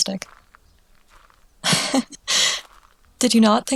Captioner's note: fond laughter